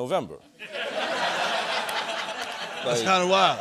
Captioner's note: laughter